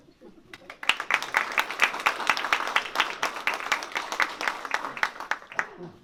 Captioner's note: applause